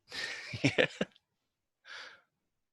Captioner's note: laughs